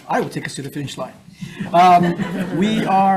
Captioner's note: audience laughing